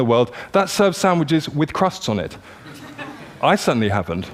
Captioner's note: laughter